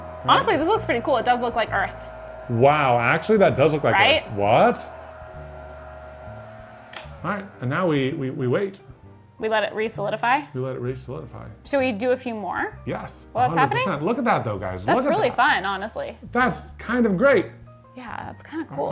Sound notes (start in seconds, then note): 6.8 switch clicking